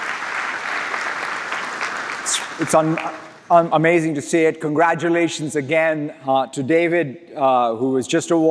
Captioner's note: applause